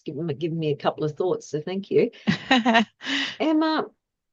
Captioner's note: laughs